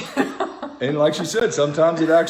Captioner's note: laughs